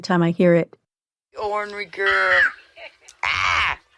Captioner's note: yells